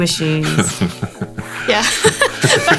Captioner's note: Bong laughing; both laughing